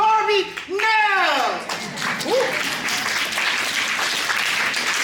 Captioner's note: cheering, applause